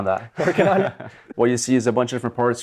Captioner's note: both laugh